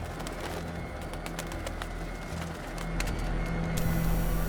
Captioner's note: bats flapping; robot whirring